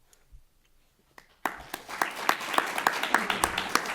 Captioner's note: applause